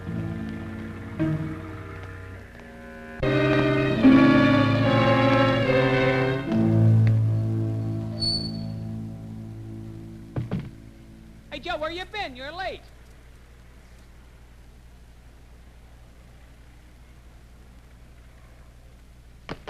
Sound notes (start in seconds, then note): 0.3 ominous music; 8.1 door creaks